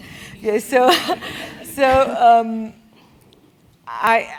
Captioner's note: laugh